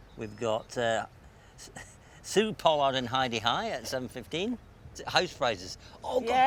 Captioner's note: chuckles